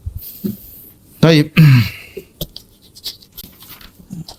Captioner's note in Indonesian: berdehem